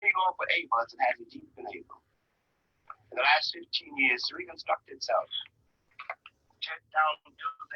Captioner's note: recording playing